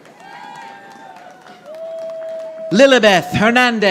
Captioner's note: audience applauding